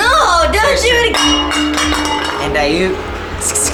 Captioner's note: bottle crashing